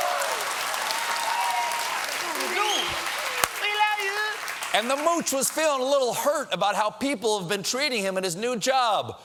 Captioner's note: cheering and applause